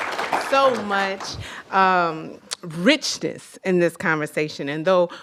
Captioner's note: applause